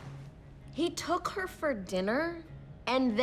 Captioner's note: bangs can down